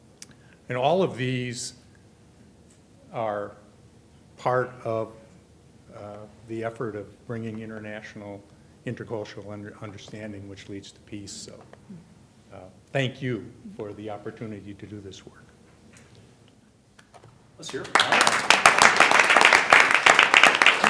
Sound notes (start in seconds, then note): 17.6 applause